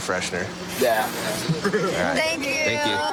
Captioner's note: laughs